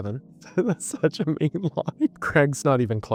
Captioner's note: laughing